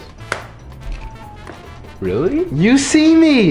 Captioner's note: egg cracks